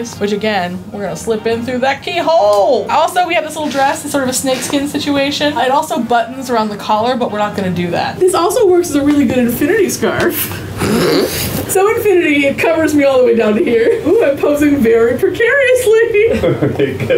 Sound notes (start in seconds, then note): 11.3 laughing